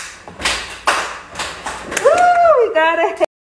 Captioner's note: tapping foot; children tapping feet; children clapping; clapping